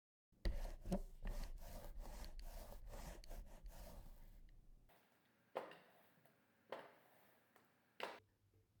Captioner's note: sound of the roller